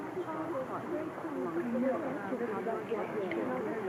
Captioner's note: muffled chatter